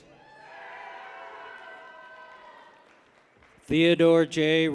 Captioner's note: people cheer